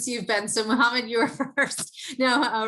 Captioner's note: laugh